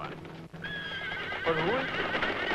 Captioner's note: horse neighing